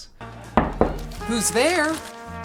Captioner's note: door knocking